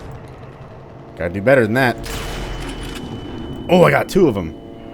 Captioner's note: bam